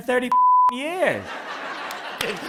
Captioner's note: laughter and applause